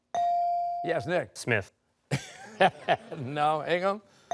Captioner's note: laughs